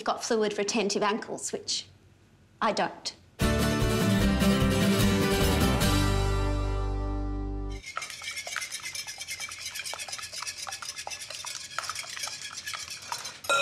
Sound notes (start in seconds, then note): 3.4 western guitar music; 7.8 whisking